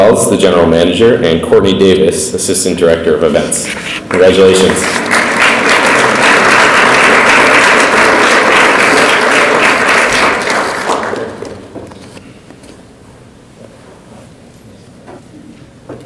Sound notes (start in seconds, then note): 3.9 audience applauds